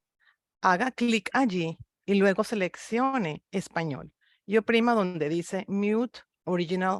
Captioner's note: speaks in foreign language